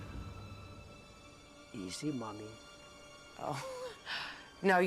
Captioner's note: speaking Slavic language